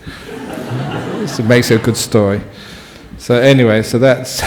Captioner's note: laughter